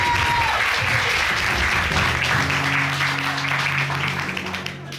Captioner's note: audience applauding